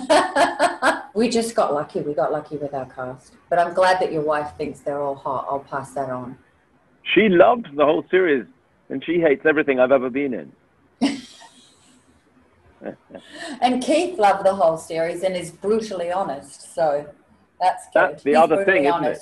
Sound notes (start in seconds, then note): 0.0 laughing; 11.0 laughing